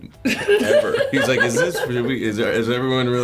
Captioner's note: laughing